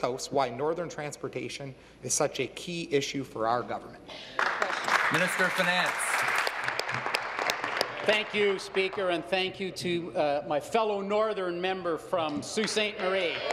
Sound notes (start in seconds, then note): 7.1 applause